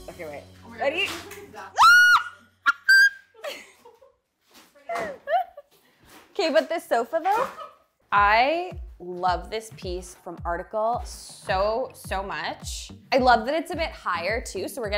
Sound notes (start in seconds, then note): 1.7 girl screams